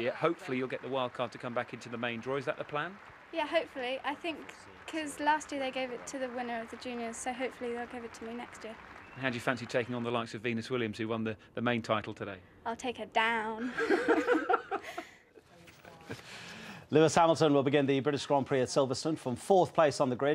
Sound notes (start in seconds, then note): 13.6 interviewer laughs